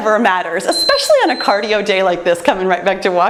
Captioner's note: timer beeps